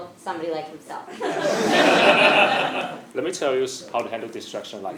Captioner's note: laugh